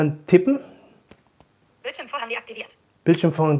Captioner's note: computer voice